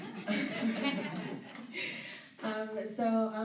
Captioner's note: laughter